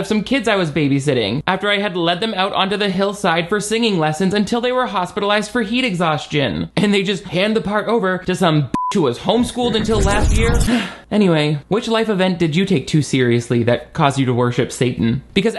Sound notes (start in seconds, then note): 8.7 beep; 10.5 roaring; 10.6 sighs